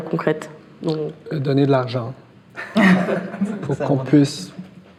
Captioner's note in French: rires